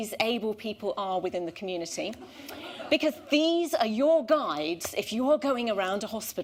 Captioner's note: laughter